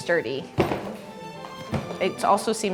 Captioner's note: closing suitcase